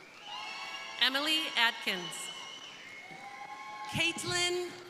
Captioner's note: crowd cheering